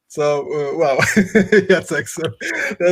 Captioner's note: laughing